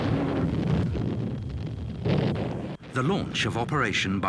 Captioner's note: bomb blasting